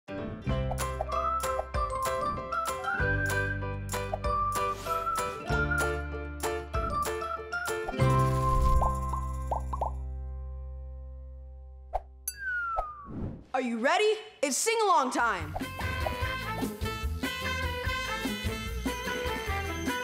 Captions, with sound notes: (cheerful music) (bubbles popping) - Are you ready? It's Sing-Along time! (jazzy music)